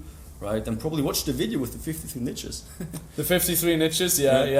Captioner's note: laughs